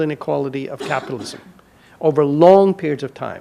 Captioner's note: audience member coughs